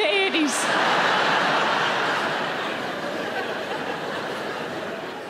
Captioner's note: audience laughing